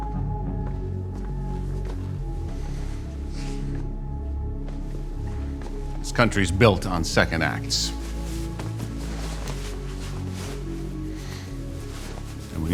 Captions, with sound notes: (suspenseful music continues) - This country's built on second acts. (jacket rustling)